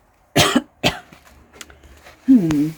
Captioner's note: coughing